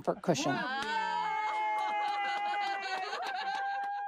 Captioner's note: all cheering